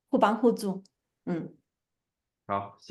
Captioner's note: nonverbal grunt as interjection